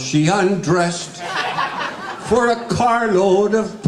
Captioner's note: guests laughing